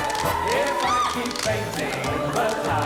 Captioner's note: woman yelps